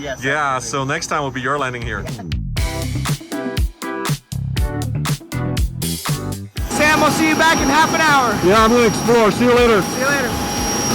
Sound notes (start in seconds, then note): 2.8 laughing; 3.6 lively upbeat music; 6.6 propellers whirring